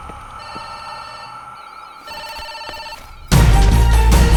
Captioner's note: phone rings